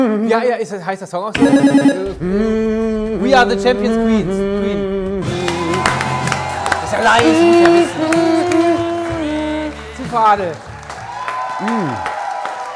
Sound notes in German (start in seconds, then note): 5.1 Summen; 5.2 Jubel; 8.9 Summen; 11.4 Jubel, Applaus